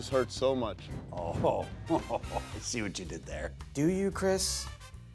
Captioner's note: laughs